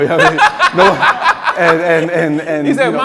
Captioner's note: laughing